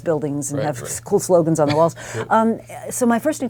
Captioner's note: laugh